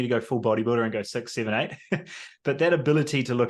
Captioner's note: laughs